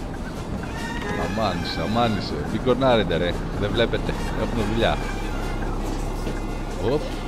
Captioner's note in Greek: Κόρνα!